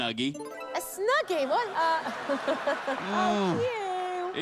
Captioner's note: laughter